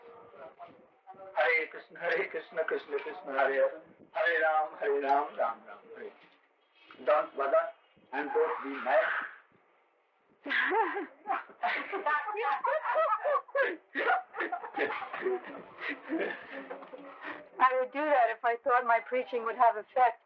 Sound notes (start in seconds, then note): 10.4 laughter